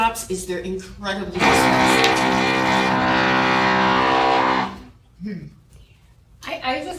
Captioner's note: tool motor whirring